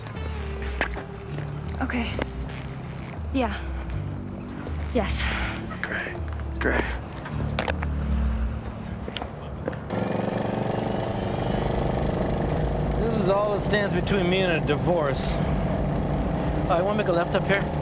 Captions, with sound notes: - Okay... yeah. Yes. - Great, great. (engine revving) - This is all that stands between me and a divorce. You want to make a left up here?